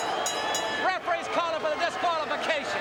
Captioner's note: bell ringing